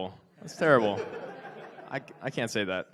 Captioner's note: audience laughs